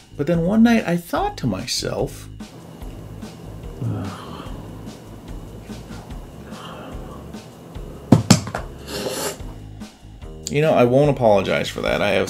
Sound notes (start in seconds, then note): 2.6 moans, drops remote, sniffles